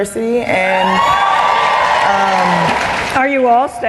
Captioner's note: cheering and Applause